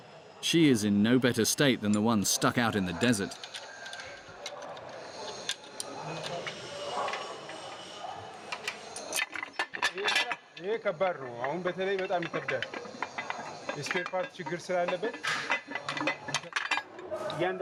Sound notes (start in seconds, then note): 3.7 indistinct chatters; 9.9 speaking in foreign